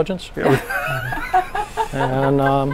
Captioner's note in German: lacht